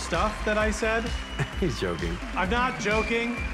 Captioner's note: chuckles